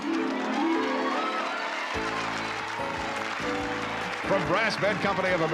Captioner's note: cheering